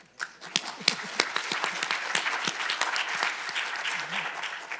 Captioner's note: audience applauding